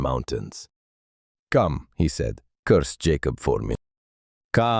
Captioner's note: commanding